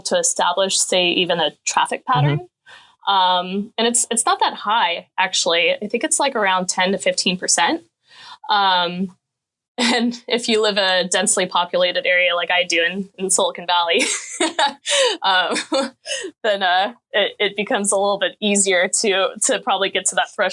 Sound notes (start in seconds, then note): 9.5 chuckling; 14.4 laughing